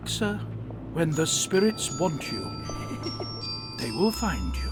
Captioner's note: laughing